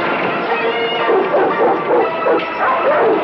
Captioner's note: barking